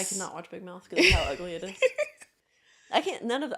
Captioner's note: laughing